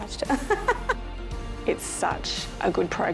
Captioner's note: laughs